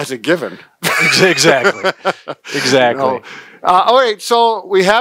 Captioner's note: laughing